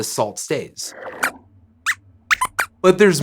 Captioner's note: squeaks squeaks